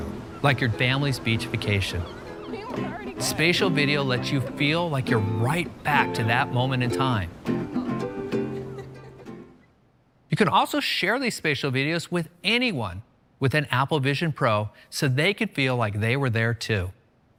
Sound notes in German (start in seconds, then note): 7.6 lacht